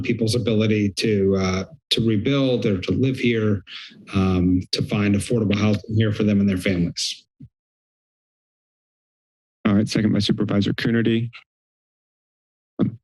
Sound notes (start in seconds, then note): 7.2 silence; 11.2 silence